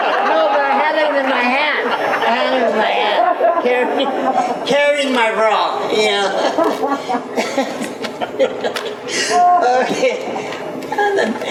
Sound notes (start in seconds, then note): 0.0 everyone laughs; 6.2 laughs